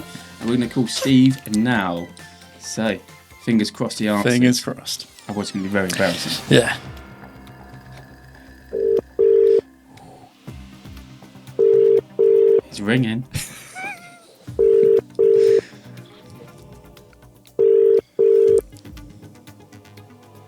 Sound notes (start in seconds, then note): 8.7 phone ringing; 13.2 laughing; 17.5 phone ringing